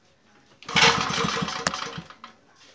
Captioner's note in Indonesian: bunyi mesin